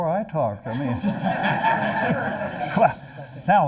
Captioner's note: laughter